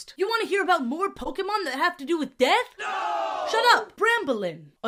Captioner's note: crowd "noo!" sfx